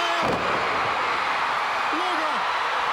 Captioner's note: crowd cheering